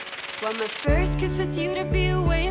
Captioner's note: echo